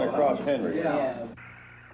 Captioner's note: indistinct chatter